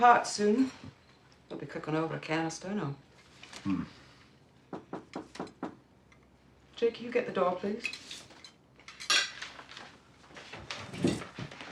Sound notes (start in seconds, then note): 4.7 knocking